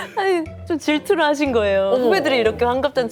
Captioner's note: laughs